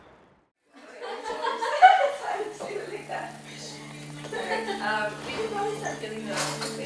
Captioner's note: laugh